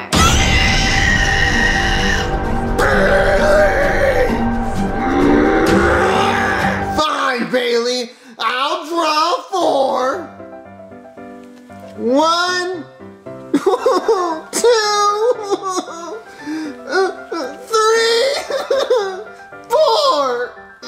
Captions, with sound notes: (screams) - Bailey! (angrily groans) Fine, Bailey, I'll draw four. One. (cries) Two. (cries) Three. (cries) Four.